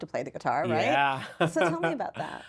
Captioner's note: laughs